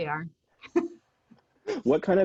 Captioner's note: chuckles